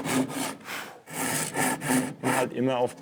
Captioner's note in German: Pusten